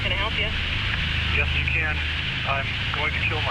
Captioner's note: on phone